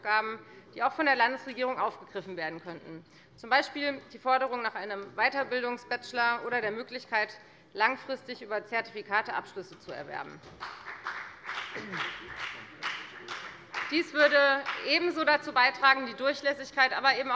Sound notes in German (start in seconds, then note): 10.5 Beifall bei der FDP